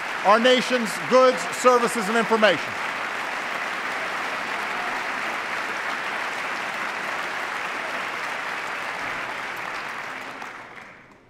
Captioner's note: applause